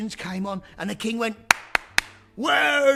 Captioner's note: clap clap clap